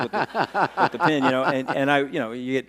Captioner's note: laughing